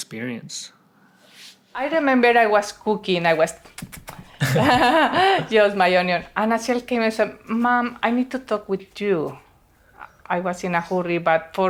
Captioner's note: cutting sound; sonido de cortar